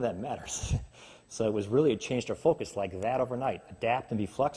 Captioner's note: snaps